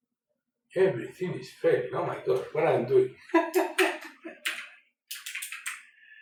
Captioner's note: laughter